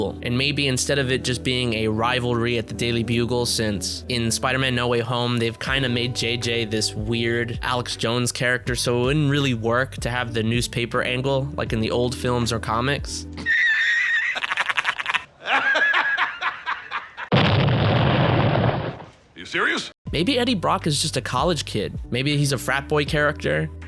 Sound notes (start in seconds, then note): 13.4 laughs; 17.3 explosion